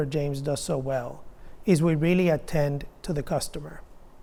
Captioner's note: none